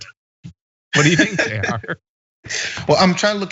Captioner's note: laugh